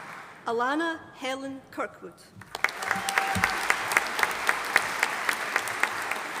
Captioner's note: audience applauding